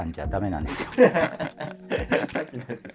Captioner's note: laughing